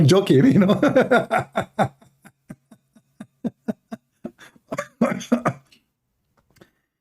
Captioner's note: Ketawa